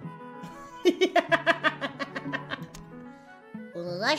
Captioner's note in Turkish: kahkaha